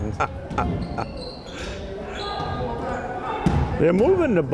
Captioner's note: chuckling